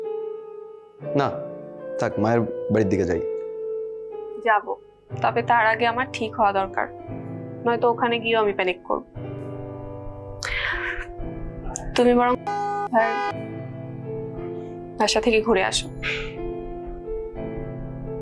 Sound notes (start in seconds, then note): 14.8 car honk